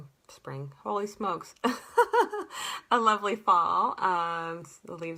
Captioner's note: laughter